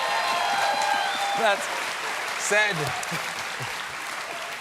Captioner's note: cheers and applause